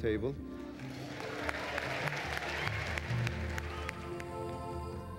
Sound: applause

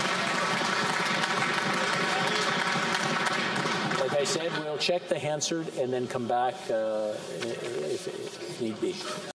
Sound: some Applause

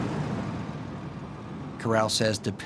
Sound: truck driving up

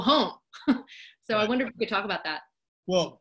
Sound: laugh

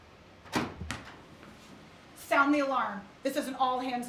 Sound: door opens

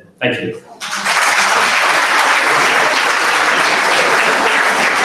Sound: audience applauds

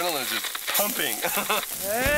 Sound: kidnapper laughs

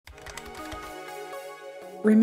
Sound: keyboard typing

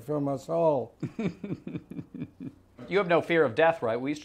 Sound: chuckles

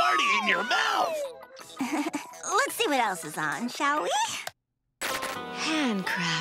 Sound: chuckles

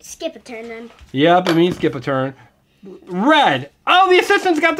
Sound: voiceover

